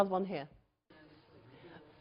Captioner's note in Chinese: 無聲